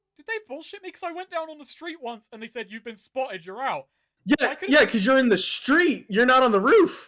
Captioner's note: none